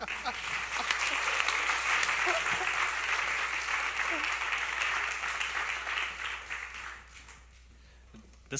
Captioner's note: applause